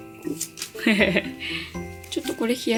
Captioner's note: laughs